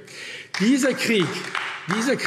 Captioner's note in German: Beifall AfD